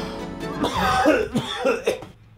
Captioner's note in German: starkes Husten